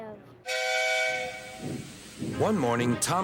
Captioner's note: engine whistles